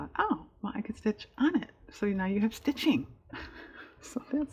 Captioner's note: laughs